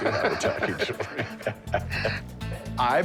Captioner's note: laughter